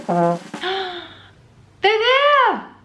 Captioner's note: trumpet blowing; lady gasping